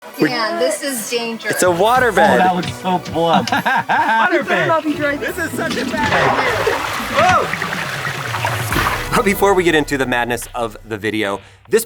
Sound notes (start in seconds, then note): 3.8 laughs; 7.6 water streaming